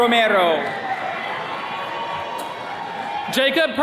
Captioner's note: attendees cheering